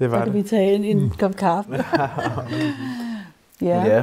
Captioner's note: laughs